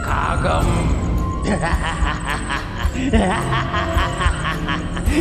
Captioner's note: hysterical Laughter